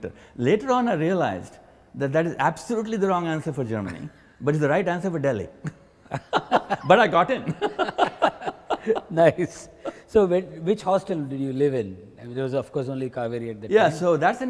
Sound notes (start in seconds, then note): 6.0 both laugh; 6.1 laughs